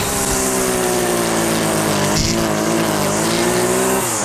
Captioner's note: weed wacker cutting